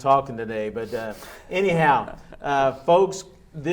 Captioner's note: laughing